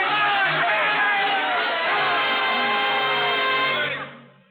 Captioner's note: cheering